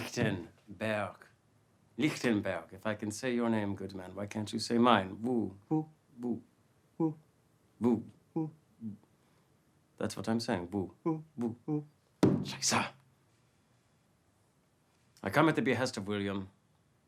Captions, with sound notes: - Lichtenburg. Lichtenburg, if I can say your name, good man, why can't you say mine, Vu? - Wu. - Vu. - Wu. - Vu. - Wu. - That's what I'm saying, Vu. - Wu. - Vu. - Wu. (cane stomping) - (speaking foreign language) I come at the behest of William.